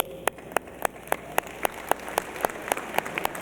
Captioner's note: applause